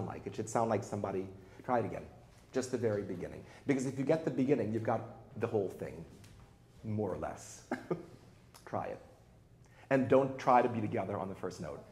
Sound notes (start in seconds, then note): 7.6 chuckles